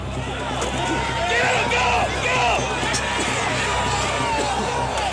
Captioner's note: shouting